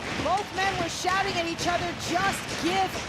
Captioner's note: audience cheering